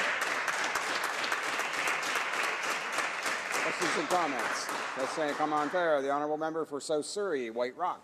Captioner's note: applause